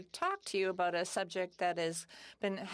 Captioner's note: speaking French